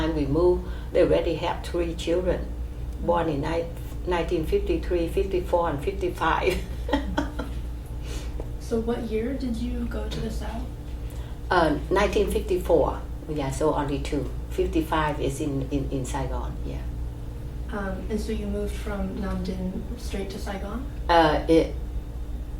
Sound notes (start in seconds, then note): 6.5 laughs